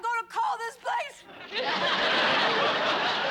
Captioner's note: laughter